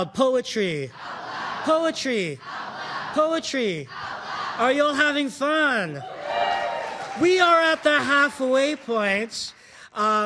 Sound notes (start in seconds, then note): 6.0 audience cheering